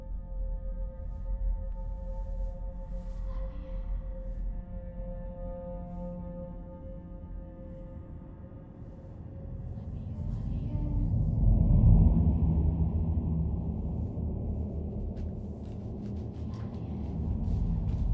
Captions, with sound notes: [WHISPERING VOICES] LET ME IN. [WHISPERING VOICES] LET ME IN. [WHISPERING VOICES] LET ME IN.